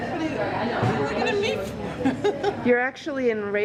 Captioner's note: laughs